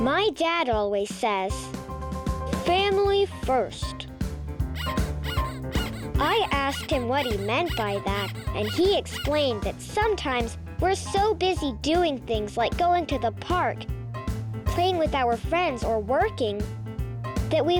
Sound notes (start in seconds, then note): 4.7 squeaking